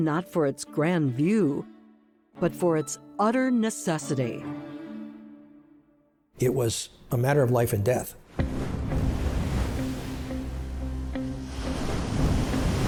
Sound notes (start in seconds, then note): 8.2 waves breaking, ominous music